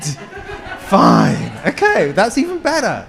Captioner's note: attendees laugh